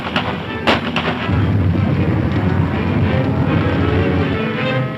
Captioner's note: cows stampeding